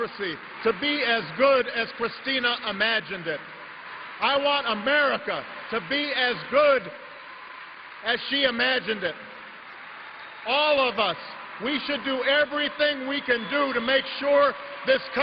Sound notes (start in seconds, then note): 9.3 applause